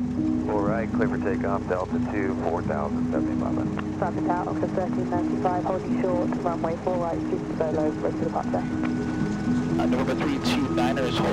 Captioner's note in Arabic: أصوات الاتصالات اللاسلكية لمراقبة الحركة الجوية